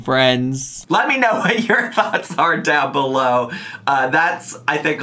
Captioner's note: laughs